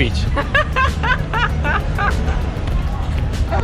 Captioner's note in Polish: śmiech